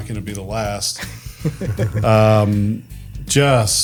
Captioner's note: group laughs